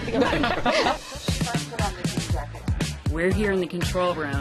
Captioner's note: laughter